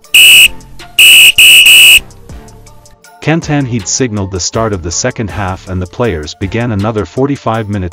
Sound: whistle

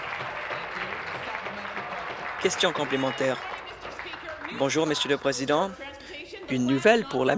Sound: applause

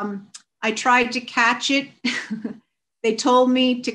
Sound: chuckles

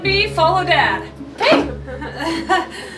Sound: laughing

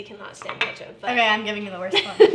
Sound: glass clinking

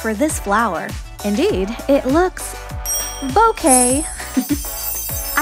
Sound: chuckle

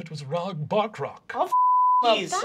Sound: beeping

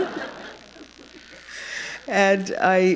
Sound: laughter

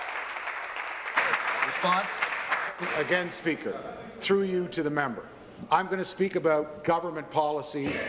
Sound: applause

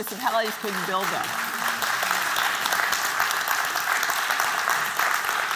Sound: applause

